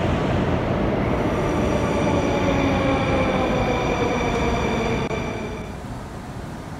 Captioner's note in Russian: прибытие поезда на станцию